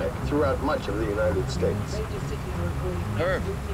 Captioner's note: overlapping radio walla&